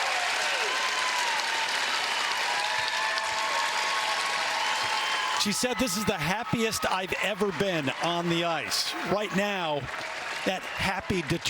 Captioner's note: cheers and applause